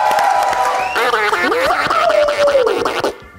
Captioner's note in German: Beatboxen